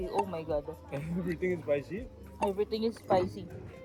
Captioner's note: laughs